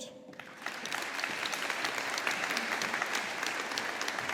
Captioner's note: audience applauding